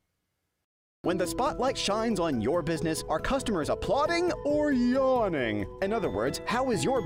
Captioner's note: voiceover